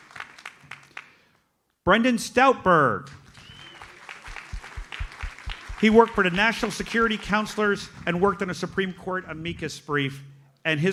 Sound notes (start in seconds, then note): 3.3 audience applauds